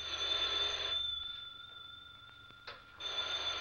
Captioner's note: phone rings